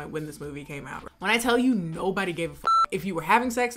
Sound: beep

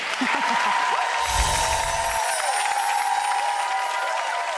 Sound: audience clapping

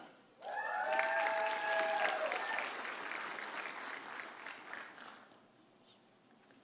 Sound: audience cheering; audience applauding

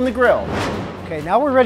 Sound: whooshing

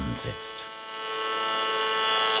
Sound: loud whirring

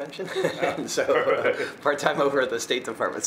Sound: both laugh

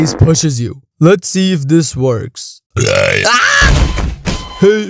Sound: burp

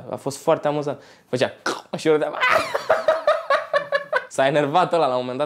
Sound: laughing hysterically

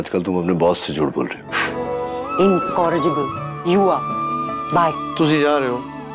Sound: gasps

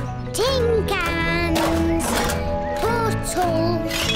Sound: cans rattle; bottles clink

